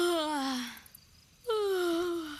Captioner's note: yawn, yawn